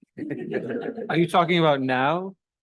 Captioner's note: audience laughing